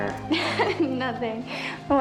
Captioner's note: laughs